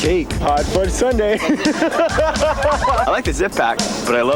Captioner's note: laughing hysterically